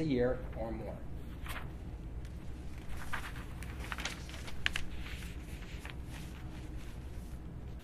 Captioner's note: papers ruffle